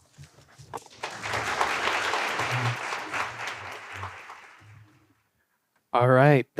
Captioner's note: applause